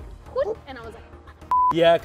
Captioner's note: beep